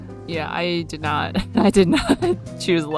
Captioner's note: laughs